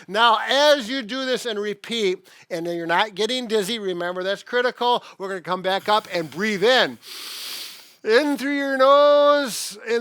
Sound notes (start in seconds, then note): 7.3 inhales deeply